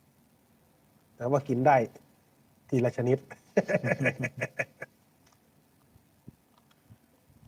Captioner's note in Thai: เสียงหัวเราะ